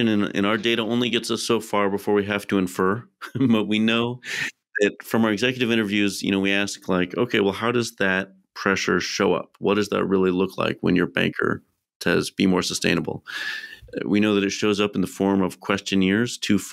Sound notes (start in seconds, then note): 3.1 chuckles